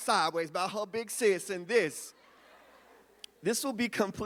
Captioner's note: audience laughs